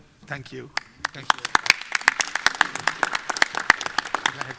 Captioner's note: applause